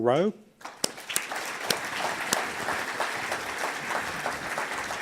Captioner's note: audience applauds